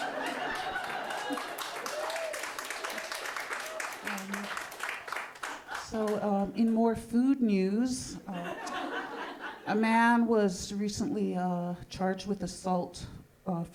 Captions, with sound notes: (audience laughing) (audience clapping) So in more food news, (audience laughing) a man was recently charged with assault